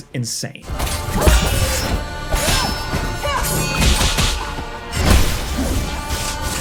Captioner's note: tense music; swords clashing